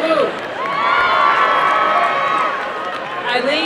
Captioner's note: applause and cheering